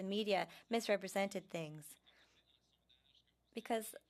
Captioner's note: speaking french